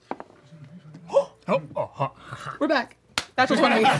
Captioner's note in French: halète